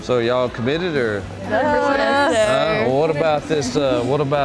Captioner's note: girls speaking together in agreement